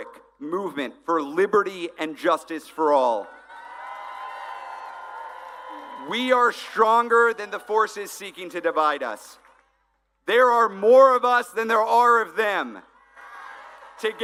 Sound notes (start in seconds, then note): 5.9 applause